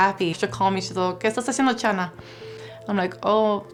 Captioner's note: speaking Spanish